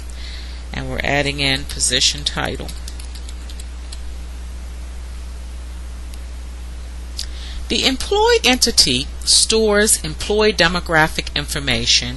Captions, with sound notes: And we're adding in position title. [ Typing ] The employee entity stores employee demographic information